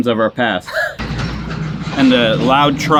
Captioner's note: laughing